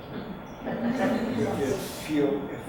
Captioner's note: group laughs